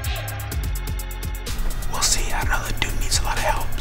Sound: whispering

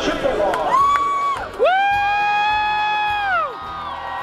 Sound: crowd cheering

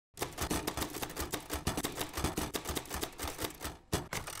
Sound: typewriter keys clicking

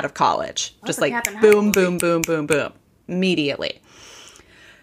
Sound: snapping

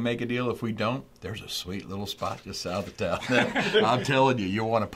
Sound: laugh

